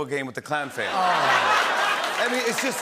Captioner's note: laughter